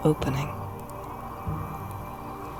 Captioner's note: sound of gentle wind